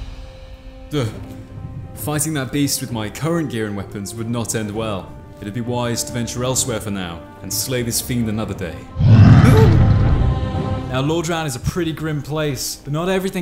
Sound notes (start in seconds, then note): 8.9 beast roars